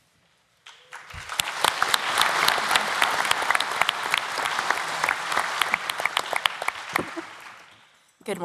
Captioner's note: applause